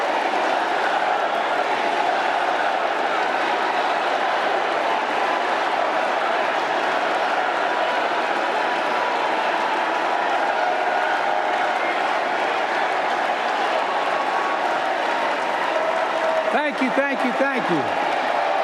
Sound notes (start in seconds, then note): 2.5 applause